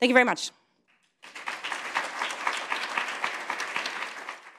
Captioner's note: applause